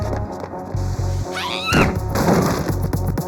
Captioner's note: explosion rumbling